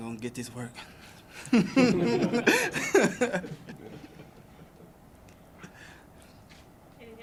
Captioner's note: laughter